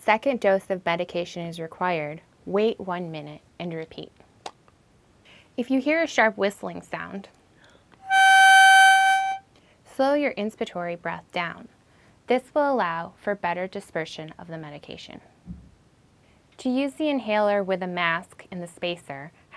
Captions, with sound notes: If a second dose of medication is required, wait one minute and repeat. If you hear a sharp whistling sound (whistling sound) slow your inspiratory breath down. This will allow for better dispersion of the medication. To use the inhaler with a mask and the spacer,